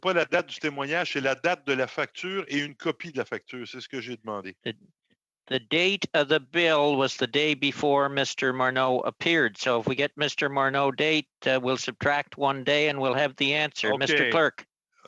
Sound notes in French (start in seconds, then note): 1.5 voix de l'interprète